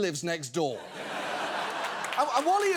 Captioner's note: studio audience laughing, applauding